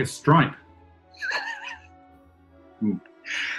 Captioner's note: sniggering